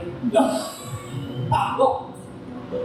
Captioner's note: laughter